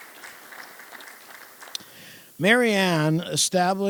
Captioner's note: applause